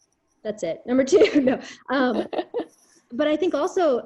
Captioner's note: chuckles